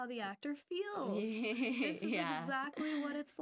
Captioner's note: laughing